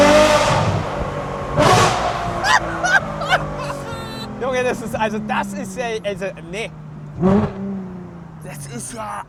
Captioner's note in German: gelächter